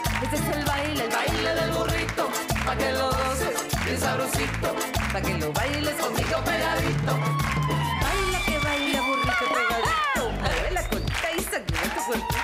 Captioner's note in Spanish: Palmadas al compás